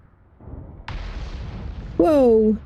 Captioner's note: explosion